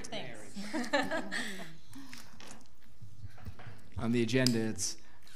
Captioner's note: people laugh